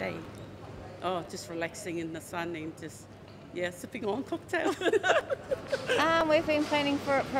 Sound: laughs

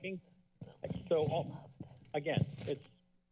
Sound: whispers

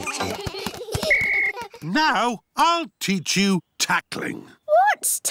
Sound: blows whistle

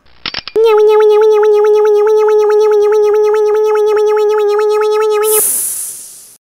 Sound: hydraulics sound

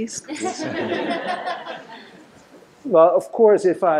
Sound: laughter

